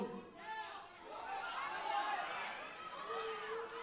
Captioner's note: audience cheering